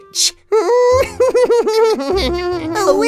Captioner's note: evil cackle